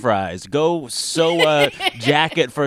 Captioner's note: laughter